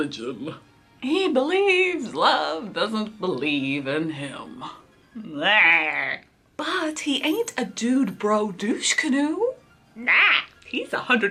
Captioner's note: sad noises!